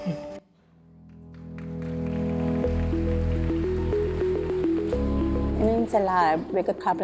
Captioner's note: audience applauding; upbeat music